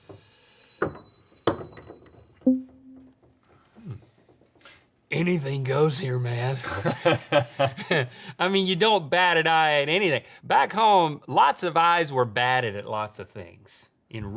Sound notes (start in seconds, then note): 0.3 bright music; 6.6 Rhett laughs